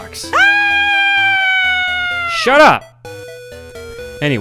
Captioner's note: screams in horror again